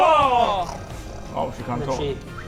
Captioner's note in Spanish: Gruñido de lobo